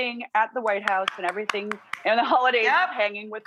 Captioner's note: clapping